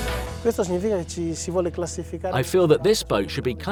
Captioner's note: piano backed electronic beat; speaking Italian